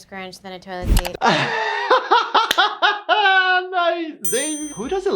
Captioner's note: laughing